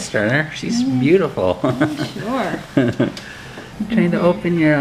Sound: laughs

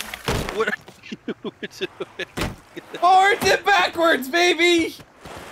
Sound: laughter

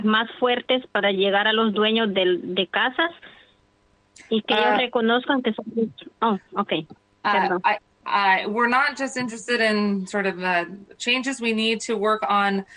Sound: speaking foreign language

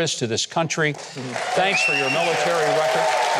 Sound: audience applauding

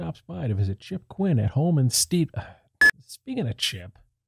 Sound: beep

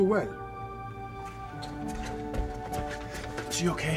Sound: rapid footsteps

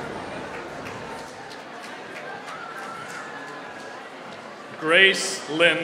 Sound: applause

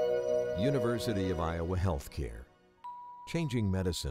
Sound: voiceover

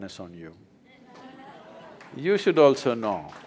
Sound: laughter/Applause

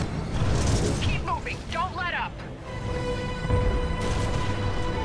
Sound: radio

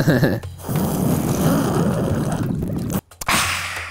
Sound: laughs; sips heavily

